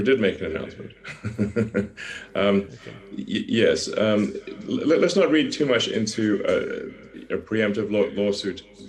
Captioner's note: chuckles